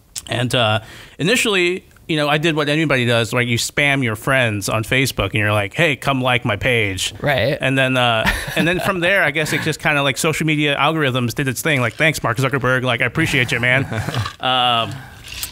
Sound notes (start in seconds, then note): 8.2 laughter